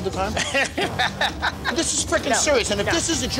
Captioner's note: laughs